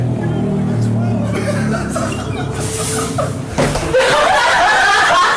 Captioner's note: and friend laughing; crowd laughing